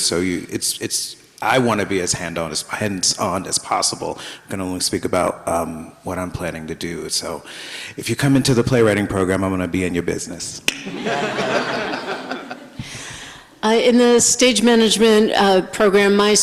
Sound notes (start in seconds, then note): 10.7 finger snaps; 10.8 everybody laughs